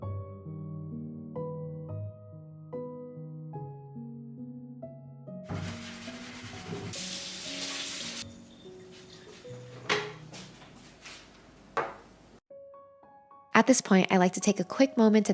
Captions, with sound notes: (sponge scrubbing) (water trickling) (dish clinking) (footsteps rustling) (gentle music) At this point, I'd like to take a quick moment